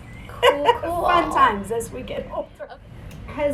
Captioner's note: laughs